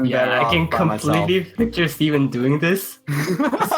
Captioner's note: laughs; more laughter